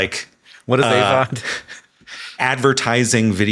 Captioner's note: chuckles